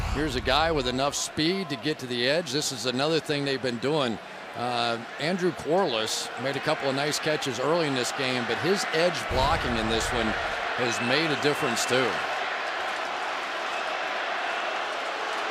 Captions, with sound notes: And here's a guy with enough speed to get to the edge. This is another thing they've been doing. Andrew Quarless made a couple of nice catches early in this game. But his edge blocking in this one has made a difference too. [crowd roars] Go Pack, go.